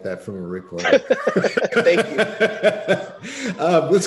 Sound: laughs

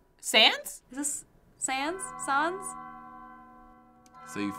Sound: bell tolling

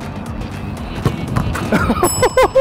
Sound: laughter; chime

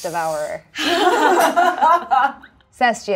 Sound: laughs nervously

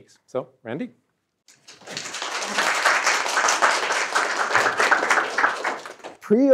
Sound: applause

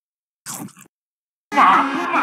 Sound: nom

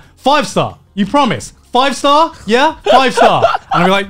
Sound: laughing

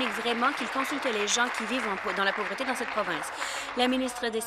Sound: applause

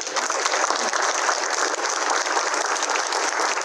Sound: applause

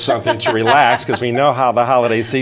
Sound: laughing

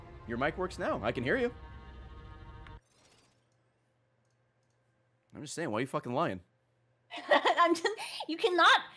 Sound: laughs

